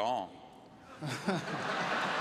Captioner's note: laughter